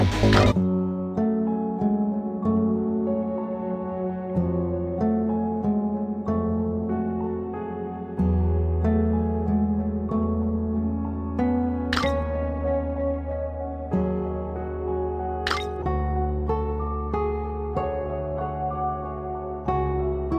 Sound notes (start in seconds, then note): 4.7 distorted sound; 15.5 distorted sound